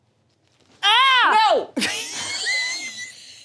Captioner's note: screaming; laughing